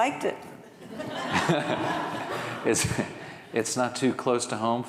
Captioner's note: audience laughing